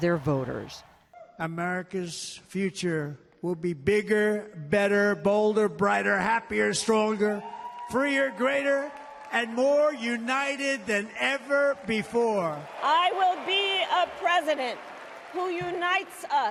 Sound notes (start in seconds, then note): 12.8 applause; 12.8 cheering